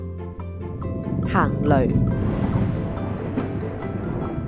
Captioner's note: thunder